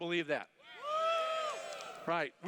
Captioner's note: cheers